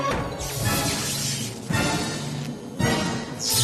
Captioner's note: eel zzzt, energy buzzes